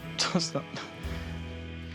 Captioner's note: laughs